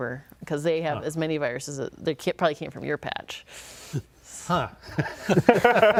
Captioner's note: laughter